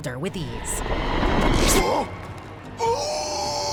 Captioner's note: grunting